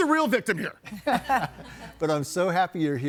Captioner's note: everybody laughing